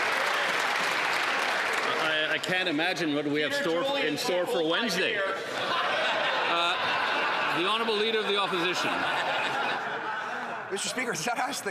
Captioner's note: some Applause